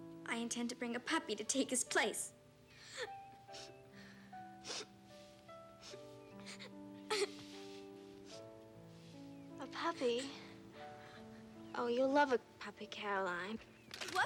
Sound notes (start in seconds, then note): 2.8 Caddie crying; 2.8 emotional music